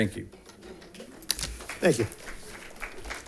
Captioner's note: audience claps